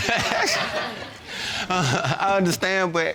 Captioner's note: chuckles